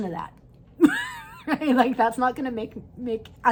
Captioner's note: chuckles